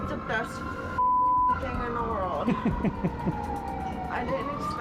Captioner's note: chuckles